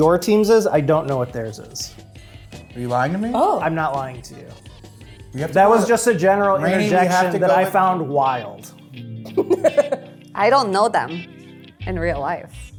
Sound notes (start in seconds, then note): 9.3 laughs